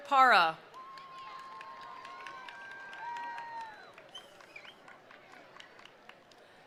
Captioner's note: attendees applauding; attendees cheering